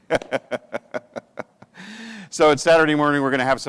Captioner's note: laughs